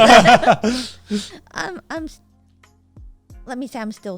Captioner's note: everyone laughing